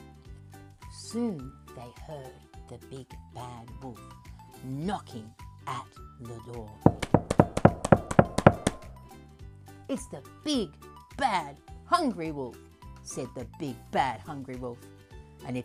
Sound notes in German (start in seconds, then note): 6.8 klopft an die Tür